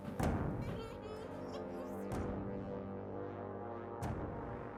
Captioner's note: Kathy crying